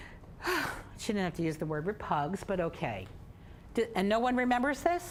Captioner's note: sighing